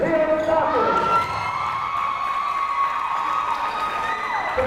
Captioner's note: crowd cheering